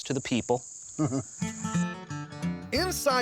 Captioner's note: chuckles